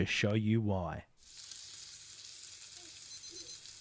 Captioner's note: sizzling